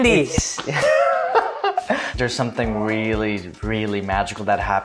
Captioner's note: laughs